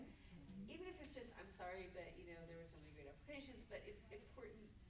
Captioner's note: stammers